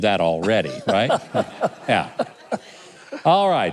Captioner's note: laughing